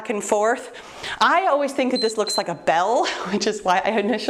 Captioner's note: timer beeps